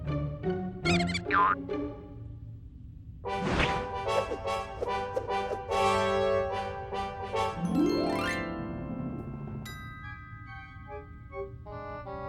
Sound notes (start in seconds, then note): 0.9 mouse squeaks